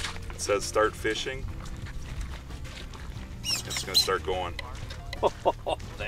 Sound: servo motor noise

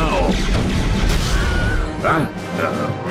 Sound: Wilhelm Scream

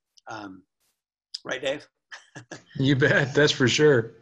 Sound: laughs

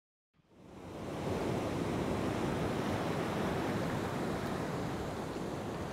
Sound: gentle waves lapping

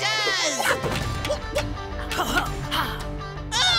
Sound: grunting

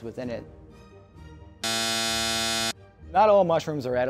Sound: wrong buzzer buzzing

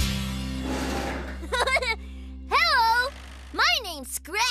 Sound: upbeat Music; laughs

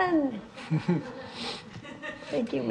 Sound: audience laughing

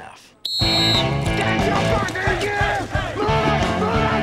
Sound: whistle blowing

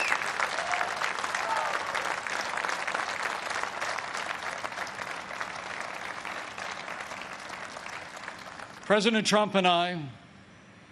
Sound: applause

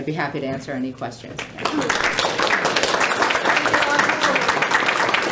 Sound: applause

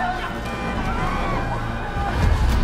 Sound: sfx: car horn

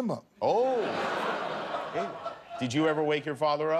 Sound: laughter

